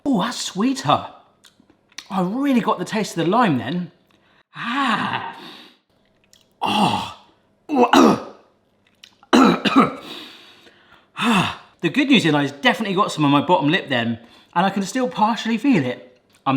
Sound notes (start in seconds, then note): 1.8 smacking lips; 5.2 sniffs; 7.7 coughing